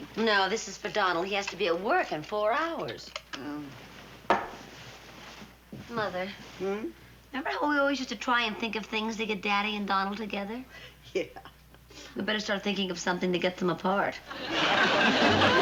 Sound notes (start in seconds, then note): 11.1 laughing